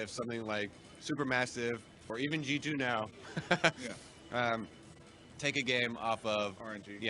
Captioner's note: laughter